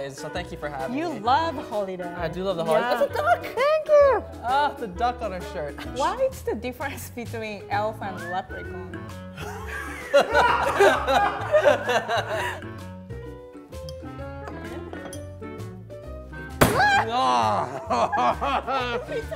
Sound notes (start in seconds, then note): 9.4 laughing